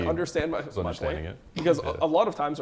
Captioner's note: laughs